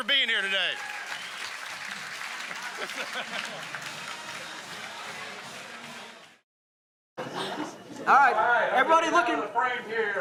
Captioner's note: applause